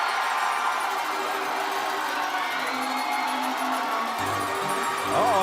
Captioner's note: cheers & applause